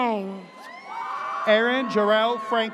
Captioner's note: audience cheers